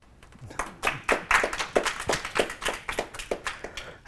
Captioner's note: applause